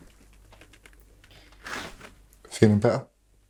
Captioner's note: none